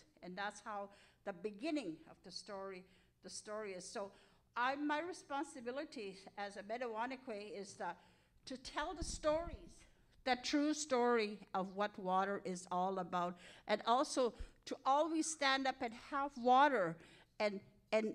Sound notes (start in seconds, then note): 6.1 speaking in Cree